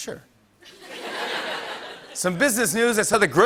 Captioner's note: laughter